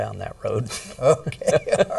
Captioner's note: laughing